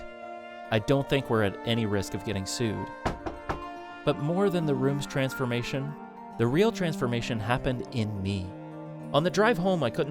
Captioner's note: knocks on wood